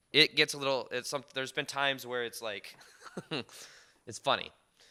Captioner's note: laughs